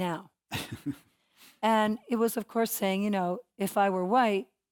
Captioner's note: laugh